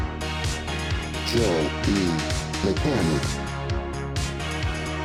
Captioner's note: robotic Voice